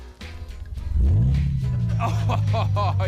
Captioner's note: engine purrs; chortles